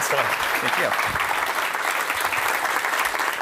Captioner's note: applause